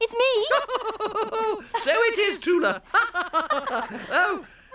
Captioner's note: laughing